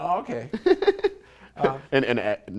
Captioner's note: laughter